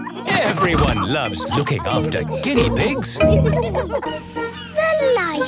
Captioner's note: laughter